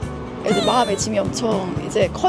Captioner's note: playful sound effect